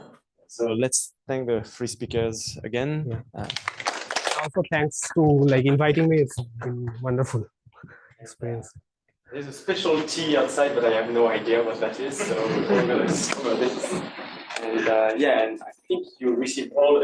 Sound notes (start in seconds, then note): 3.4 applause